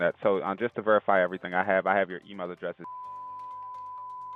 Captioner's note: beep